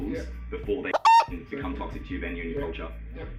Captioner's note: beep